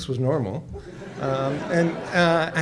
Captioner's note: audience laughs